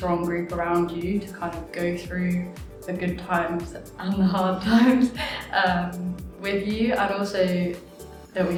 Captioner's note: laughs